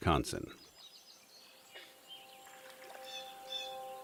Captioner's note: birds chirping; gentle orchestral music